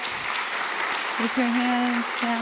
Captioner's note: applause